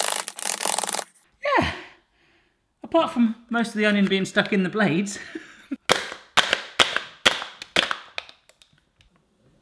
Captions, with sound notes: Yeah! Apart from most of the onion being stuck in the blades. (slaps)